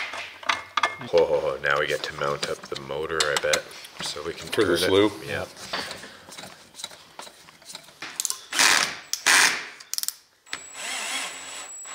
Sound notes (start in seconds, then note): 8.6 drill whirs